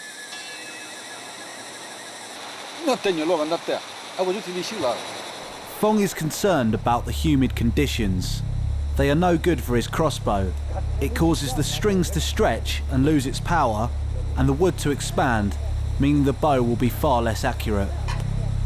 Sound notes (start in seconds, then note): 2.5 Chinese spoken audio